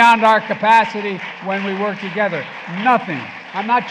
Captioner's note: applause